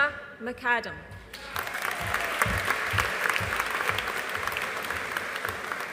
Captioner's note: audience applauding